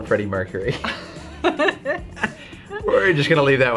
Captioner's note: laughing